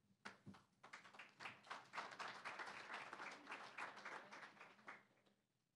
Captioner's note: applause